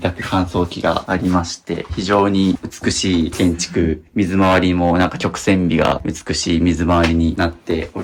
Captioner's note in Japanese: 咳払い